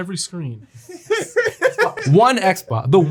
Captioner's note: laughing